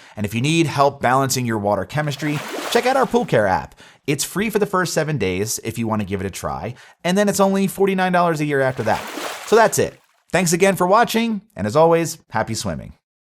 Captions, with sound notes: And if you need help balancing your water chemistry, (graphics splash) check out our pool care app. It's free for the first seven days if you want to give it a try. And then it's only $49 a year after that. (graphics splash) So that's it. Thanks again for watching, and as always, happy swimming.